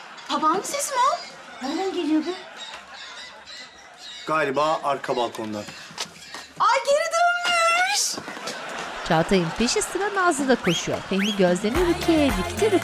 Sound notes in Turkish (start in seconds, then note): 2.8 Papağan sesi